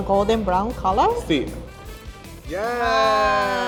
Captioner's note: speaking Spanish